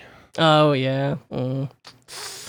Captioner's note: winces, sighs